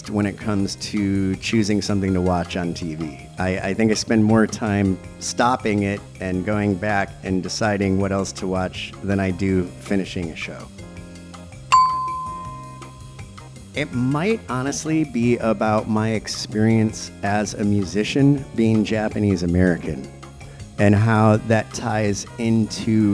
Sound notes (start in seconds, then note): 11.7 ding!